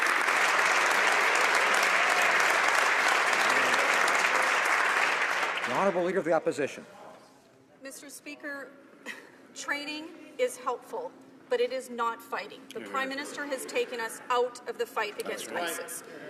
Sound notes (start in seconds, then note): 2.7 some Applause